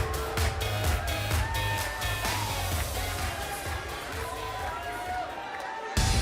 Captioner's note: crowd cheering